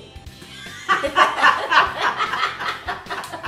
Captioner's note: laughter